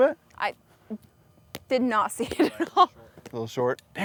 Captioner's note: laughs